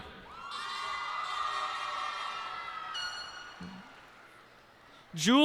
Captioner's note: cheers and applause